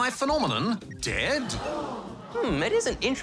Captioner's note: audience gasps